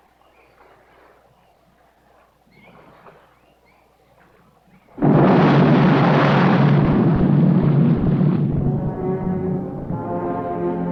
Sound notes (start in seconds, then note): 4.9 explosion